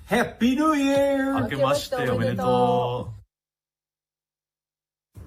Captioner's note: speaking Japanese